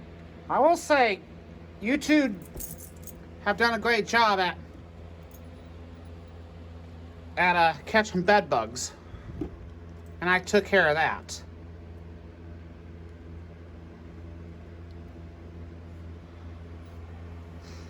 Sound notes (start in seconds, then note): none